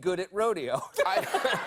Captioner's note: laughter